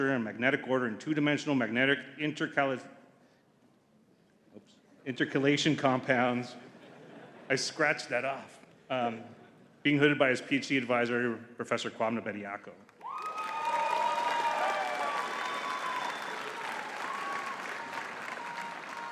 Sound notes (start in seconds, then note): 13.0 audience cheering and clapping